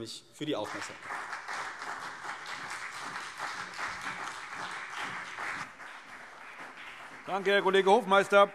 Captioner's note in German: Beifall CDU und BÜNDNIS 90/DIE GRÜNEN